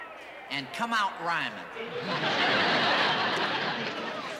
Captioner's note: laughter